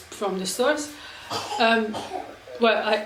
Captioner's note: child coughing